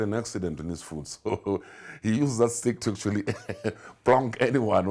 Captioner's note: laughs